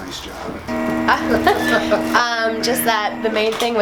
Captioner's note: laughing